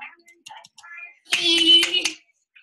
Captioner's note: clapping